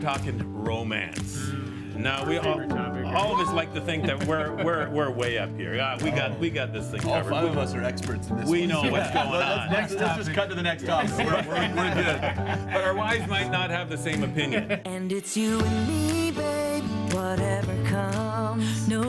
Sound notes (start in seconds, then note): 3.1 laughing; 3.1 whooping; 8.4 laughs; 11.1 upbeat music